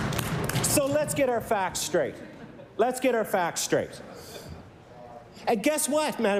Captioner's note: applause